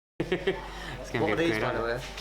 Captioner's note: laughing